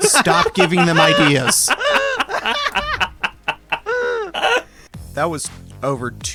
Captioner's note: laugh